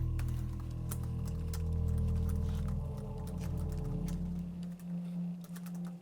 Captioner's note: sounds of typing on a keyboard